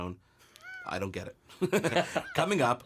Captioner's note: laughs